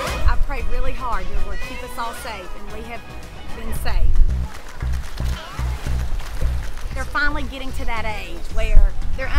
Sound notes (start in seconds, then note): 4.4 waves hugging the shore